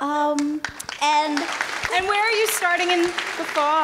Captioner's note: clapping